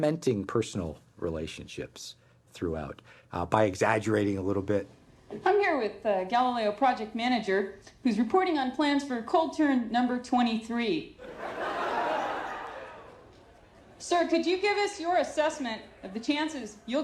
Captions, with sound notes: sort of cementing personal relationships throughout by exaggerating a little bit. - I'm here with the Galileo project manager who's reporting on plans for cold turn number 23. (crowd laughing) Sir, could you give us your assessment